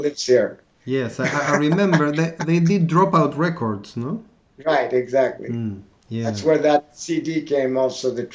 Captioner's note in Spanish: Risas